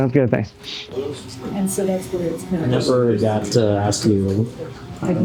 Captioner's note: background chatter